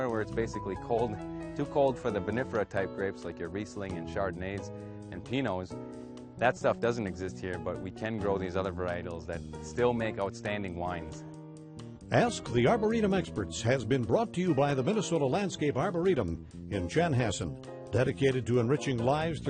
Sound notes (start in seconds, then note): 12.2 voiceover